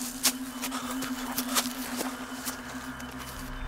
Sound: panting

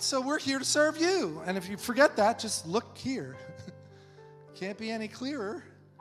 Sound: laughs

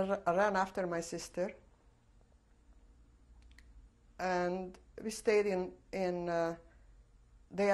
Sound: pauses for 3 seconds

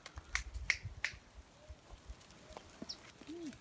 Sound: snapping sound

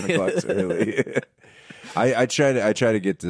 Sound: laughing

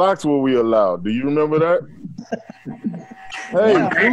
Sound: laughter

